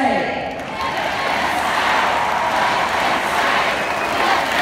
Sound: crowd chanting

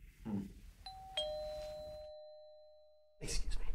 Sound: doorbell rings

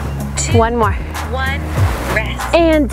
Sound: clock Countdown

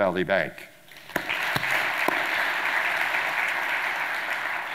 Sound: audience applauding

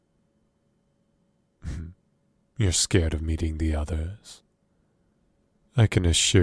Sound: chuckles

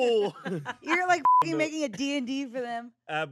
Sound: beep

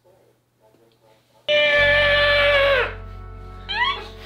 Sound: more screeching; pterodactyl noise

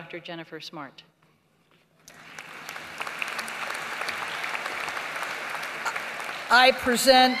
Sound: applause

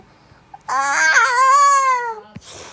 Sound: screaming

